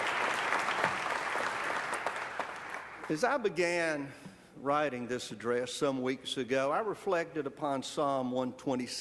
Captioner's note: applause